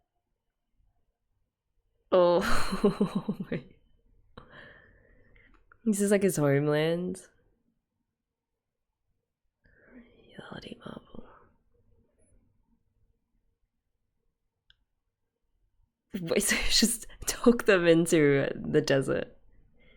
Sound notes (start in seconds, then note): 2.5 laughs